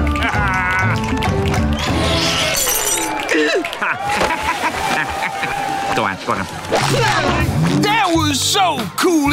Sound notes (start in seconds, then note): 0.1 laughing; 3.2 laughing; 3.3 gasping